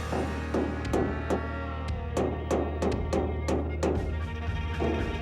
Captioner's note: hammering